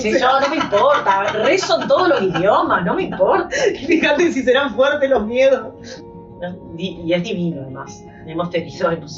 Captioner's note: laughs